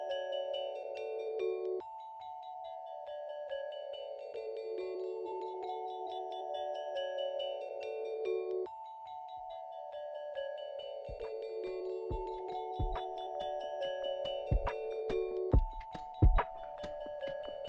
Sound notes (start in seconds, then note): none